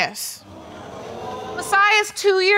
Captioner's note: audience gasps